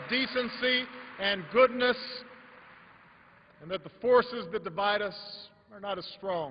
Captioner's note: applause